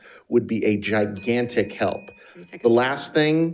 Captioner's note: bell dinging